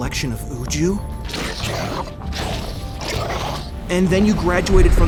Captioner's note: 2Bells growling